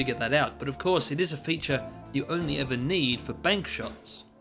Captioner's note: none